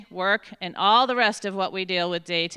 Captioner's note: none